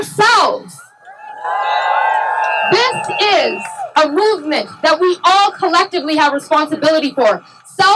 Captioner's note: cheering